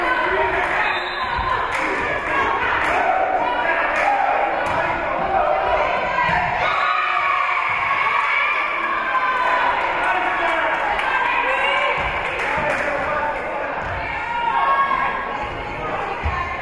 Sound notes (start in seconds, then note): 0.8 whistle being blown; 2.5 spectators shouting encouragements; 6.5 spectators cheering; 6.5 whistle being blown; 7.8 spectators cheering and applauding; 11.1 spectators shouting encouragements